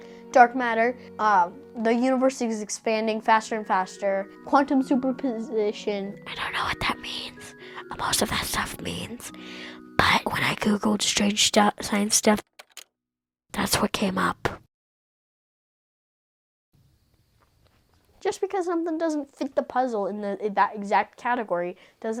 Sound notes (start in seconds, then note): 6.2 whispering